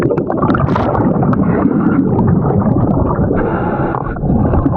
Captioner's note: bubbles gurgling